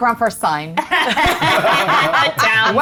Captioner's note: group laughs